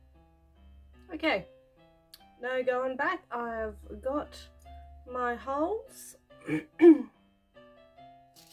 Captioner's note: clears throat